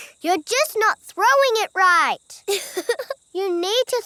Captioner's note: chuckles